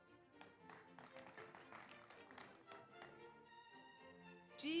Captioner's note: audience applauds